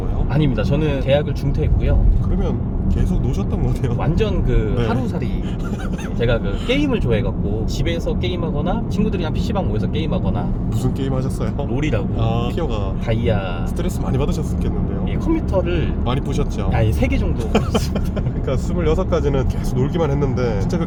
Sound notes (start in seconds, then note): 17.4 laughs